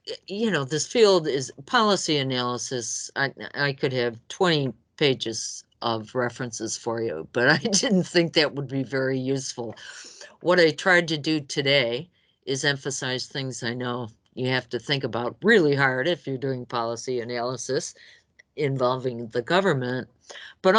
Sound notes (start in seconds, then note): 7.5 laughs